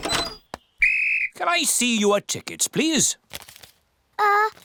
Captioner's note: blows whistle